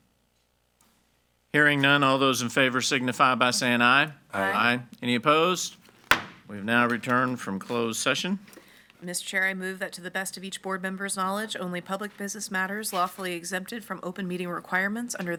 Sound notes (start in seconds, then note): 6.1 hammer slamming